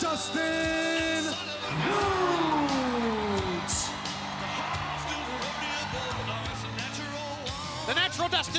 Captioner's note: crowd cheering